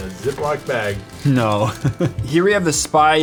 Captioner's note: laugh